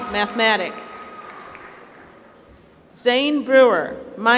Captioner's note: applause